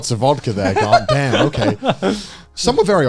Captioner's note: laughing